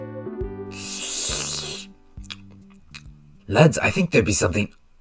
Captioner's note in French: slurpe